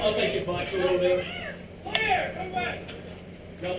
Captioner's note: murmurs